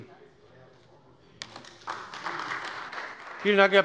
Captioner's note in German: Beifall bei der CDU und dem BÜNDNIS 90/DIE GRÜNEN